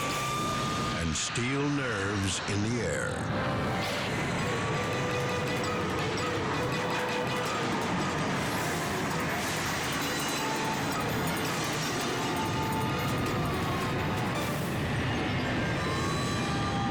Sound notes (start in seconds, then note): 3.0 dramatic music; 8.2 metal scraping; 14.0 siren wailing